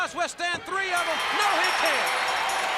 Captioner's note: crowd cheering; bell ringing